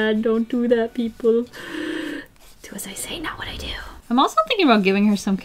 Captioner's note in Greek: Βαθιά εισπνοή